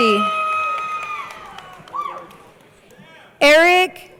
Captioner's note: crowd cheering